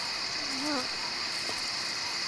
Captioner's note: moaning